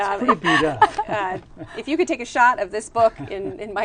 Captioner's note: laughter